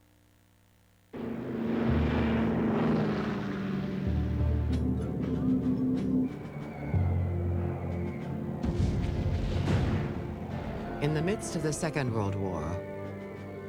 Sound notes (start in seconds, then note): 1.1 roaring Engine; 5.2 whistling Bombs; 8.6 explosions